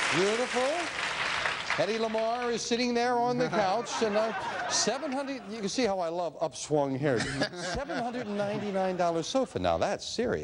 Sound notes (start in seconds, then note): 3.3 audience laughs